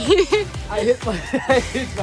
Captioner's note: laughing